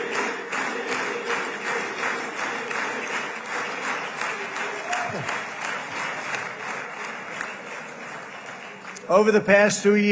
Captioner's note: applause